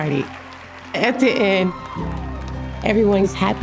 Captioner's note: audience cheering